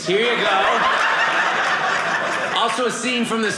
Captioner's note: audience laughing